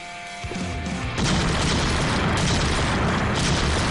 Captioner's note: explosions